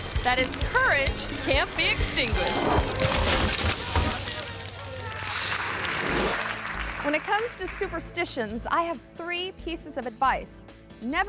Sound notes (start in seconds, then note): 3.4 bike thuds; 4.2 audience clapping